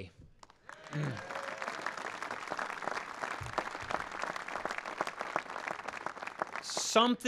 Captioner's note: applause